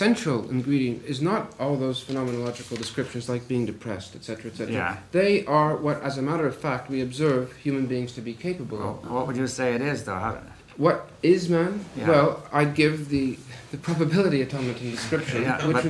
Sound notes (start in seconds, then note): 14.7 laughs; 14.9 laughter